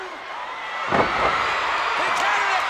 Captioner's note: audience cheers